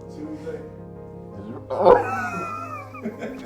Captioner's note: laughter